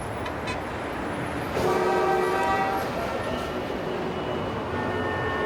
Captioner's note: street sounds